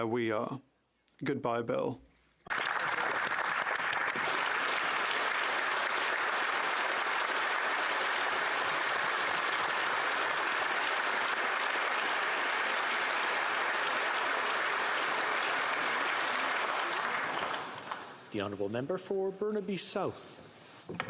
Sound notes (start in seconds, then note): 6.6 applause